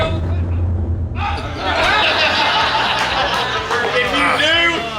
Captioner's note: hahaha